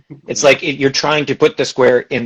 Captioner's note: laughs